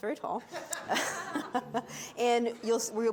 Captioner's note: audience laughs; laughs